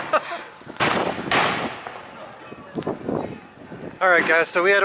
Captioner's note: laughter; loud booms continuing